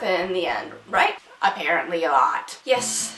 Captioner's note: nasally